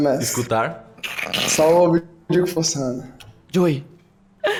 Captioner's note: laughs